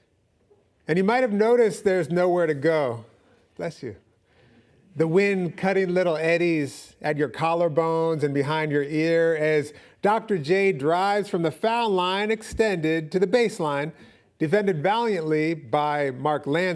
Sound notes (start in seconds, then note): none